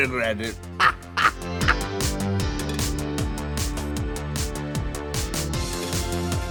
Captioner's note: upbeat music; Trixie laughs